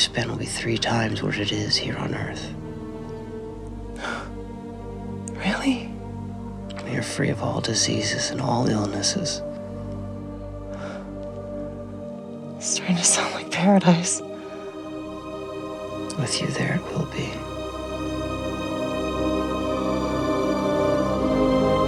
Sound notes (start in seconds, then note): 10.6 sighing; 18.9 dramatic music